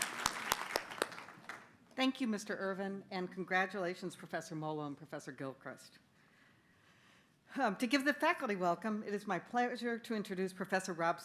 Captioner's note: applause